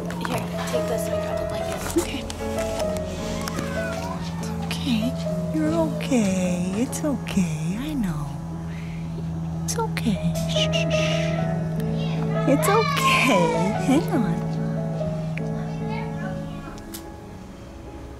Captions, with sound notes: Here, take this, let me grab the blanket. Okay. It's okay, you're okay, it's okay. I know. It's okay. Shh shh shh. It's okay, hang on. [Kids playing]